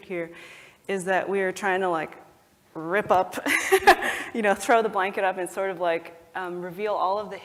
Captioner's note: laugh